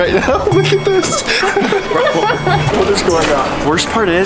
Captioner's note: crew laughing